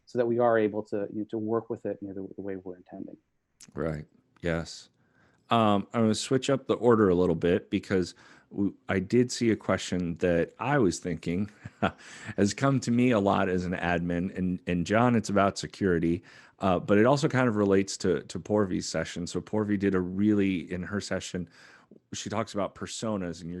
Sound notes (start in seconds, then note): 11.4 laugh